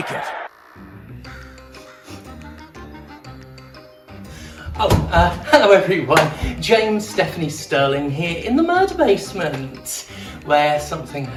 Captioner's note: sniffs